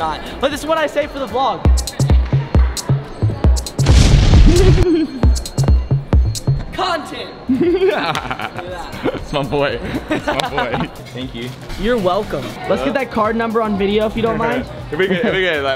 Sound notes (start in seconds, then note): 1.6 upbeat music; 3.8 explosion; 7.5 laughing; 9.8 laughing